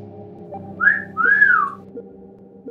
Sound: whistles

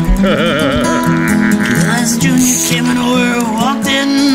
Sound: laughter

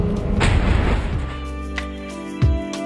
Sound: crate crashes; serene techno music

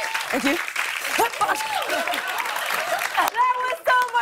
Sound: laughter

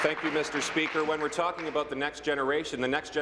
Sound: applause

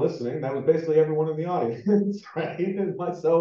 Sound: chuckling

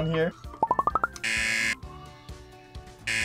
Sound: buzzer; buzzer

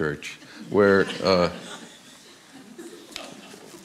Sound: audience laughs

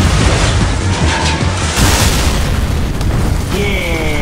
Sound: none

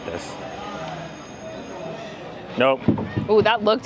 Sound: bell ringing

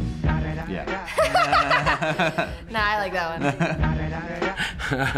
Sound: both laugh; chuckles

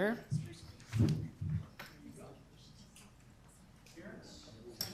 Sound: group chatter

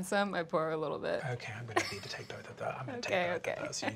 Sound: laughter

